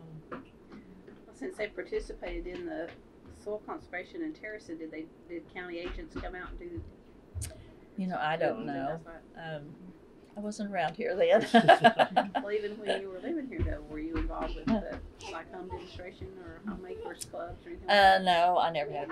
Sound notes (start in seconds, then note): 13.6 laughter